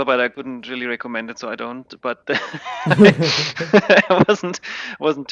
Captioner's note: laughing